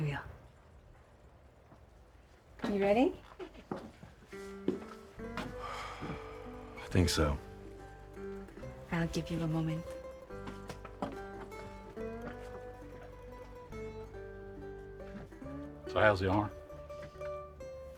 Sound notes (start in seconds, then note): 4.5 peaceful music; 5.4 sighs